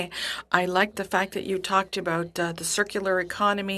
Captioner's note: speaking French